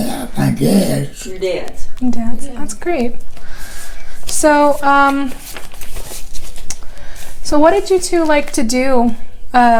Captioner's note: shuffling papers